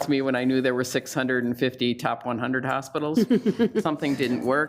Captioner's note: laughs